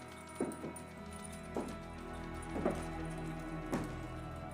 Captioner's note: boots tapping